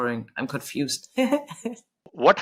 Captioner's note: chuckles